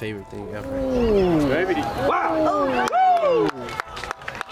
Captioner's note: crowd cheering